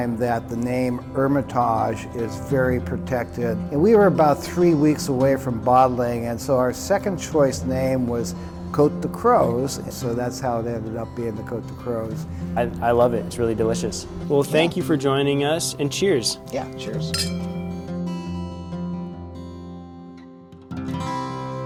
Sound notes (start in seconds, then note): 16.9 glasses clinking